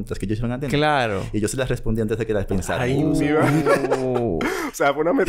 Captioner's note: laughs